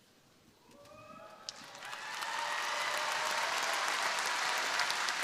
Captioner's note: crowd applauding